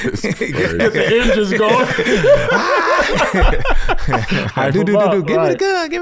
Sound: everyone laughs; laughs

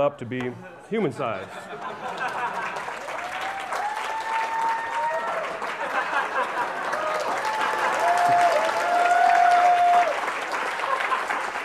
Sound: applause

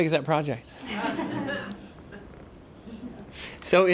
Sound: laughter

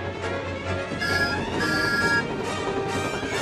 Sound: distant engine whistles

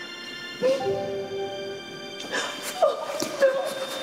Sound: sniffs

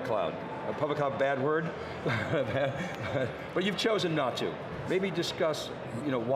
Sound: laughs

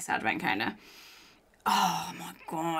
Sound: inhales

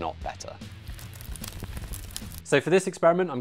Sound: fire crackling

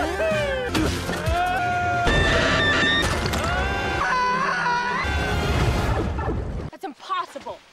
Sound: screaming

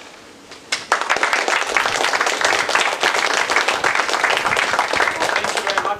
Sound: applause

